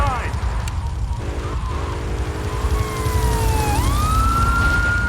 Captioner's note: plane engine roaring